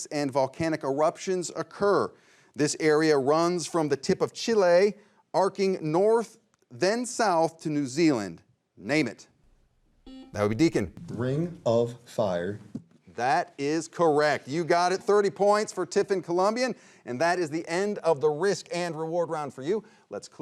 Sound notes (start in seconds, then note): 10.0 buzzer rings